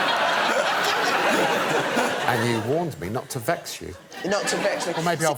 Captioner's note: laughter